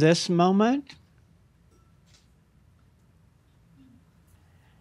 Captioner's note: slight pause